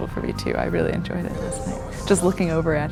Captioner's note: faintly speaking